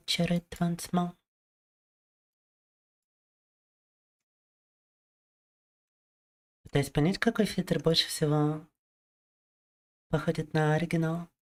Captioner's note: speaking in foreign language